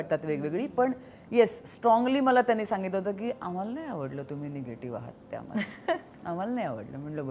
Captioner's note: Chuckles